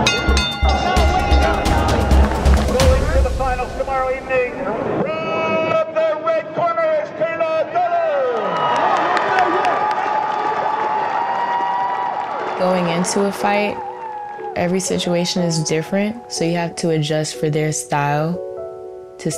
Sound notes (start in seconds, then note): 0.0 bell ringing; 2.3 audience applauding; 8.6 audience cheering